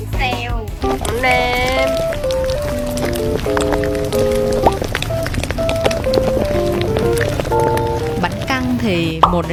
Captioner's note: ASMR eating sound